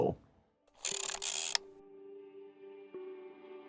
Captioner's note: film reel clicks; gentle music